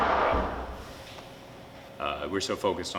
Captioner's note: loud crash